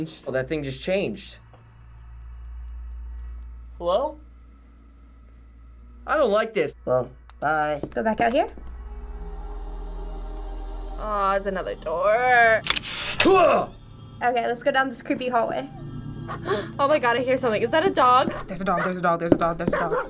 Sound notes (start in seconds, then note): 9.3 eerie music; 12.6 door hinge creaking; 16.2 gasping; 18.3 dog barking; 19.6 dogs barking